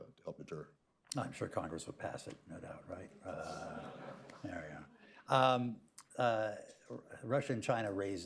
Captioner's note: laughter